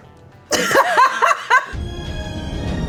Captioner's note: all laughing; upbeat music